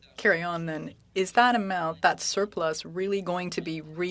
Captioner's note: speaking French